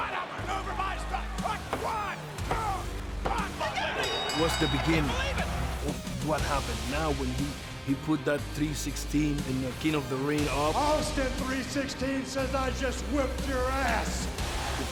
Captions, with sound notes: One, two, (bell dinging) That was the beginning. What happened now when he, he put that 3:16 in the King of the Ring up Austin 3:16 says, I just whipped your ass.